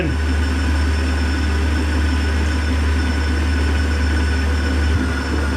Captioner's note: machine whirring